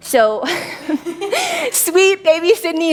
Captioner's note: laughs